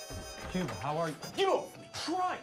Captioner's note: door opens